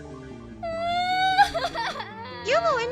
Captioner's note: Little Youmu crying